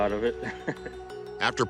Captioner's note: laughs